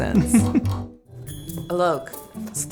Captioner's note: laughing